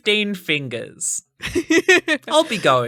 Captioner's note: chuckling